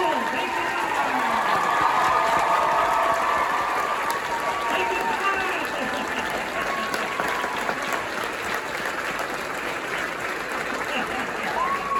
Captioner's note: cheering, confusion on-stage